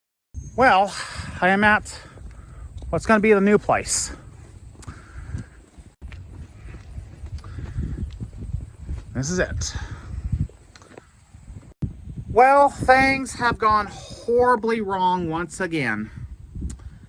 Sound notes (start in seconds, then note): none